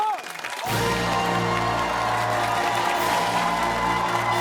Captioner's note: cheers, applause and musical fanfare